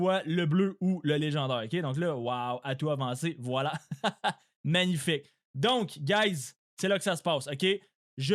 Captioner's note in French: rires